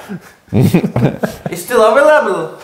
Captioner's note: laughs